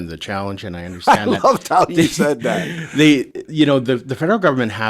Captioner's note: laughs